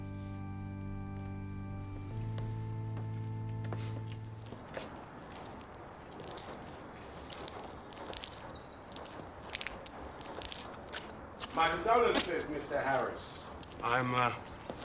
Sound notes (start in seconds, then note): 0.0 solemn organ music; 4.8 birds chirping